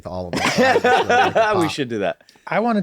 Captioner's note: laughing